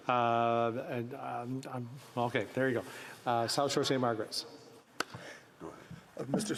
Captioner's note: speaking in french